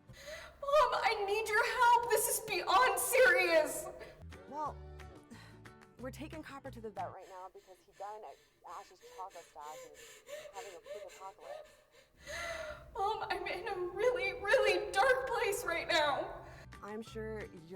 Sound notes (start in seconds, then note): 12.0 Abby pants; 16.9 cheerful music